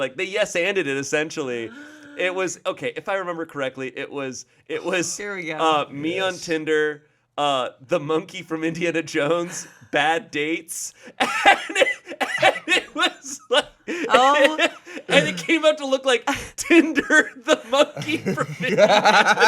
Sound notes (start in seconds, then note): 11.1 laughs